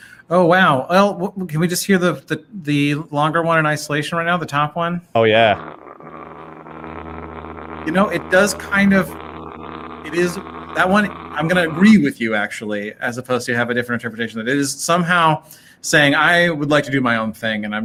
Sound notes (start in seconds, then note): 5.4 long, low buzzing sound